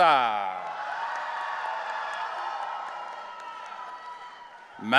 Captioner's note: audience cheering